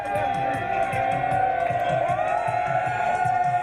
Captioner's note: cheering